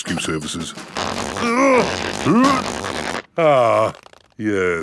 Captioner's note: grunting